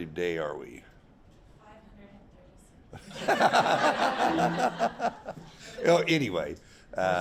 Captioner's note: laughing